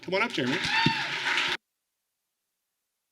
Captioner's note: applause